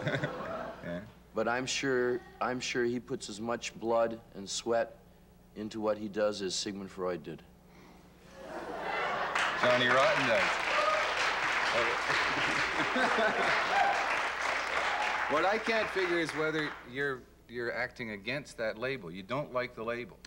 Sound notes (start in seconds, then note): 8.9 cheering and applause; 14.3 applause and laughter